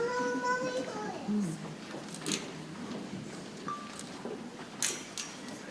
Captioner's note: people chattering softly